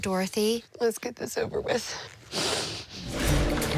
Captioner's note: sniffling